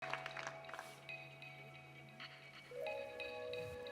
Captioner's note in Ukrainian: оплески